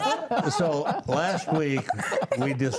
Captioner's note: panelists laughing